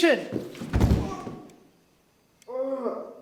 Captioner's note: loud thump; Lyndon groans